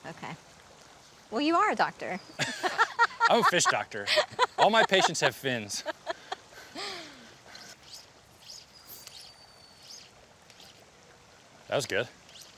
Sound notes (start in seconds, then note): 2.3 both laugh; 8.9 line whirs